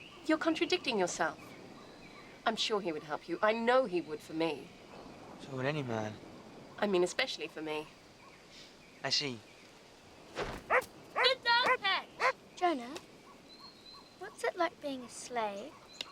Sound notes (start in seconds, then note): 11.1 Patch barking